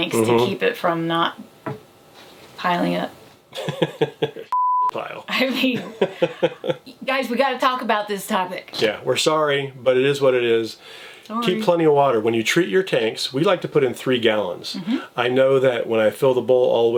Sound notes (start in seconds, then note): 3.6 laughs; 4.5 beep